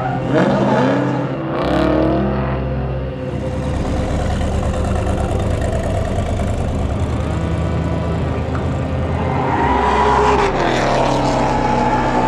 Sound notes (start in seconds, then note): 6.3 muffler rumbling; 9.3 engine roaring